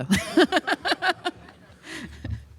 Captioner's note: laughter